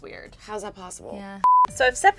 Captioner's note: beep